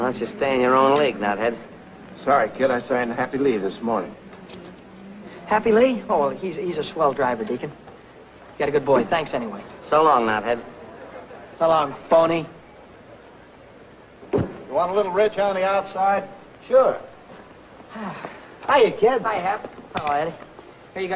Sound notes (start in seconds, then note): 17.8 Billy sighing